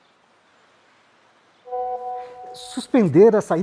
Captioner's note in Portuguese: notificação de celular